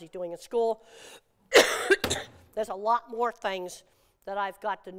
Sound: coughs

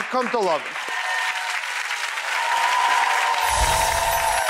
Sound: audience applauding

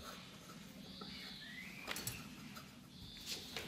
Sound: birds chirping

